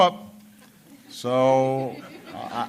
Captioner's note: laughter